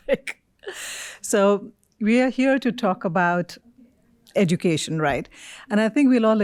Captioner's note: chuckles